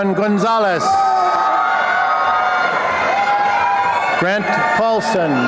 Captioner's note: applause and cheering